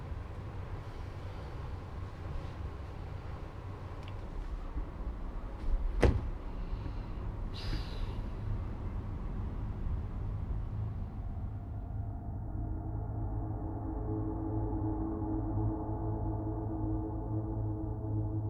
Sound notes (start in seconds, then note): 6.0 phone thumps on bed; 7.5 sighs